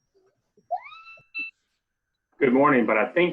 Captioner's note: child shouting